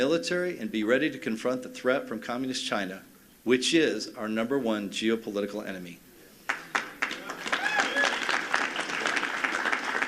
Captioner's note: applause